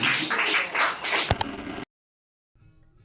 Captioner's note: audience cheers, applauds; static; ka-chunk